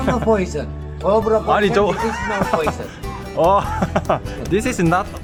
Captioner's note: bursts out laughing at the unexpected situation